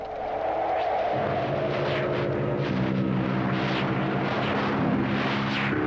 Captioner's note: wind howling; haunting orchestral music